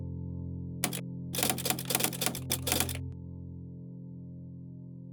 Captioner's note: typewriter clatters